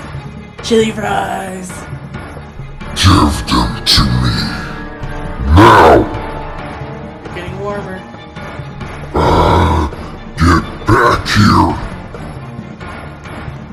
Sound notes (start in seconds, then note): 9.1 growls